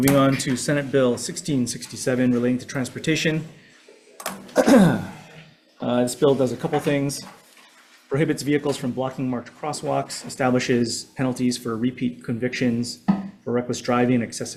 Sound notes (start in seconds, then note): 4.5 Chair clears throat